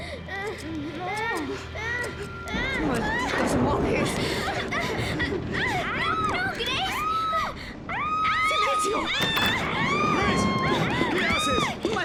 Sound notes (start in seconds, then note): 0.2 screaming; 5.0 screaming